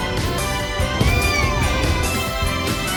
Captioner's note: meows